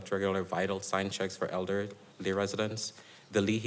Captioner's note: none